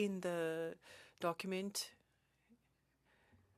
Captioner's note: speaking French